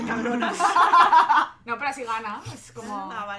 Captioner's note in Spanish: risas